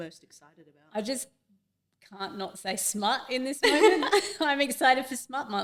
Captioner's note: both laugh